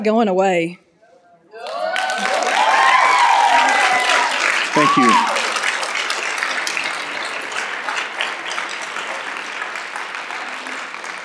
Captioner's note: applause and Loud Cheers